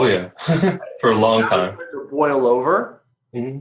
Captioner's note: laughing